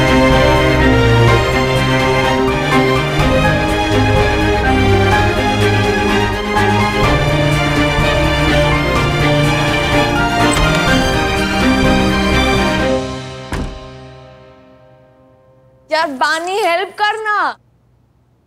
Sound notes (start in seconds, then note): 10.4 door opens; 13.4 door closes